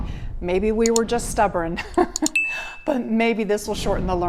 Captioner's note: laughs